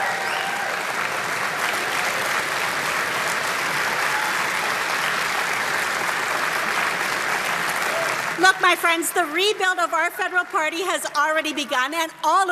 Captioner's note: cheering; applause